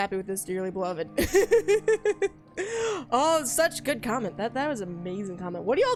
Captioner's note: laughs